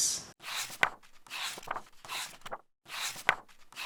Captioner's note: pages turning